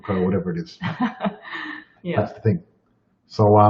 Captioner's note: laughs